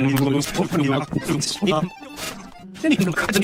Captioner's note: sniff